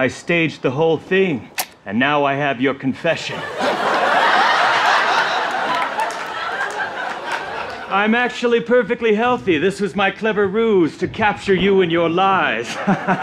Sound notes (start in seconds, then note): 3.2 audience laughter